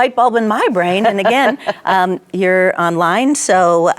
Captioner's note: laughing